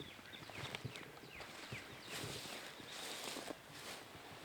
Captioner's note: foliage rustling